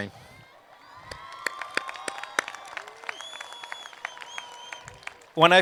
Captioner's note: applause